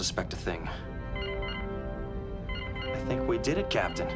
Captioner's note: console beeps